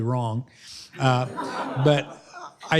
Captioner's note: laughter